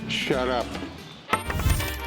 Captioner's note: coin clinking